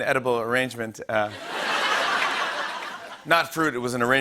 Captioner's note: laughter